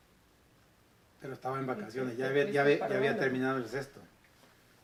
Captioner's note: some noises in Spanish